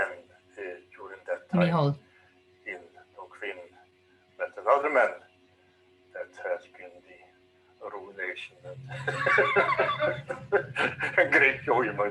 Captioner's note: both laughing